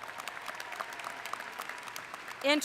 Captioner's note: cheering